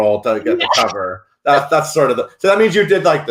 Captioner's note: laughs